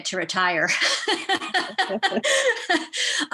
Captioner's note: laughs